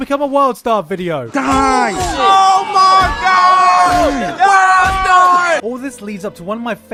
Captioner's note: crowd noises